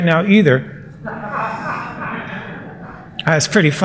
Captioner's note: laughter